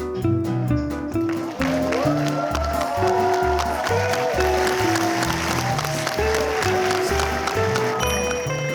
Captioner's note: it ends with a loud cheer